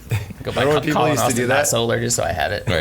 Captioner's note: laughing